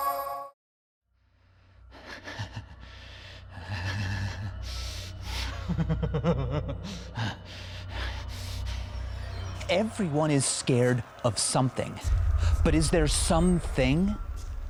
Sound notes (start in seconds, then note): 1.4 Michael breathing heavily; 5.2 laughing nervously